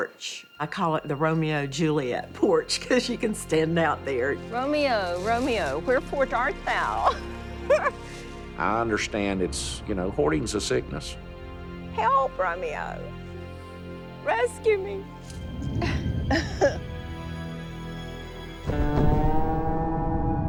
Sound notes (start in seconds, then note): 15.7 laughs